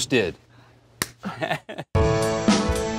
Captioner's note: Sam chuckles; upbeat music